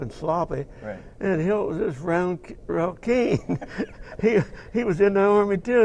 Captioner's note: laugh